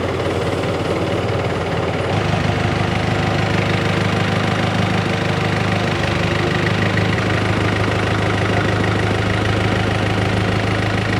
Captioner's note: motor whirring